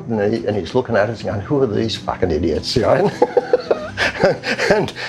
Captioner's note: laughs